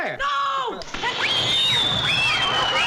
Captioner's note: screaming